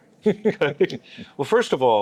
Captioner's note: laughing